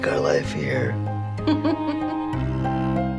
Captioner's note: giggles